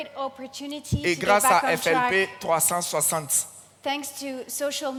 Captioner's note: continues in French